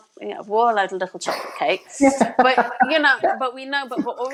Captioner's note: laughs